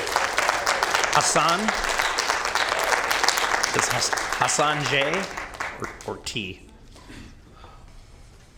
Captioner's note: applause